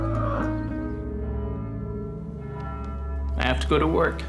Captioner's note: church bell tolling